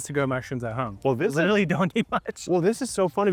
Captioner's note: laughing